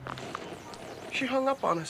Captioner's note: click, static